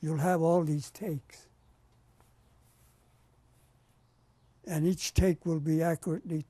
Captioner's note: pauses for 3 seconds